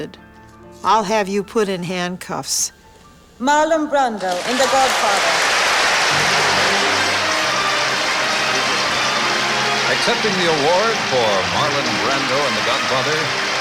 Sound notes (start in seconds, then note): 5.4 applause